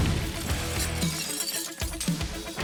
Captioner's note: bang; shattering glass